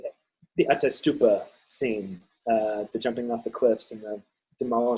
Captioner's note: speaking in foreign language